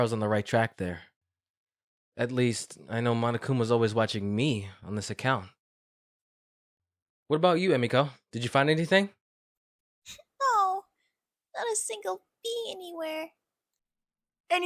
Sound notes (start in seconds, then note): 10.2 through tears